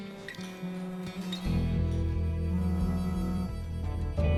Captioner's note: phone vibrating